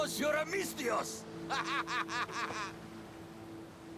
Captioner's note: laughs